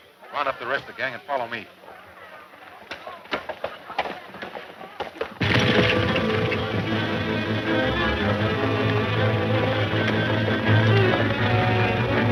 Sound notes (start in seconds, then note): 5.6 horses galloping; 8.8 exciting western music